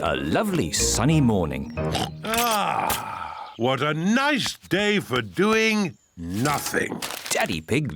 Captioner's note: oinks